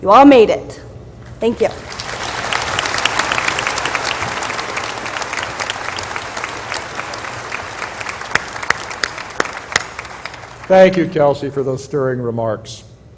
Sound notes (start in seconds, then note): 2.2 applause